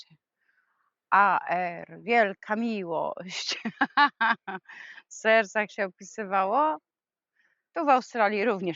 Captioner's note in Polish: śmiech